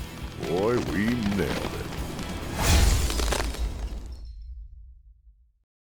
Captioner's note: ice shattering